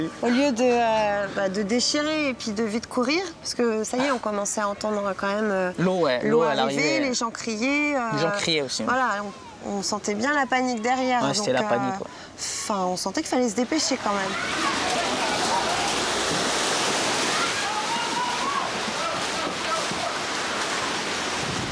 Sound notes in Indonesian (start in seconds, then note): 13.9 suara gelombang tsunami; 14.3 suara kepanikan